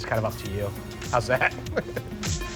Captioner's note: laughs